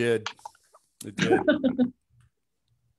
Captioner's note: laughs